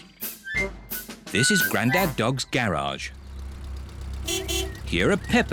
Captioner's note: horn beeps